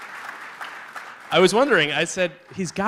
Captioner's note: applause